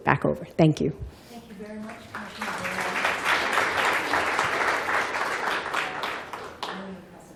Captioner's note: applause